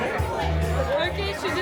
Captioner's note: speaking French